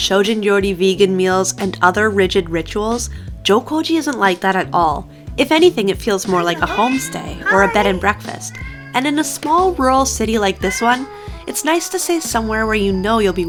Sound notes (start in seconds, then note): 6.4 cat meowing; 10.5 cat meowing